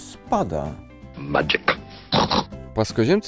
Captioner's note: snort snort